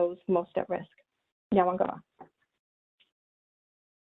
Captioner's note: speaking in native language